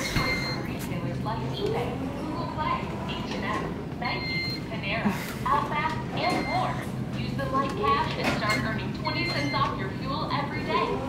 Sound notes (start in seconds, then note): 8.3 beeps